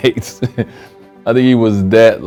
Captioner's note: Dwayne laughs